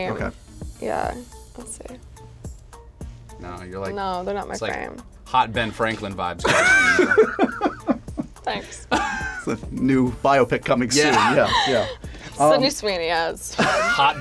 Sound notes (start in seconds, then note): 6.4 laughs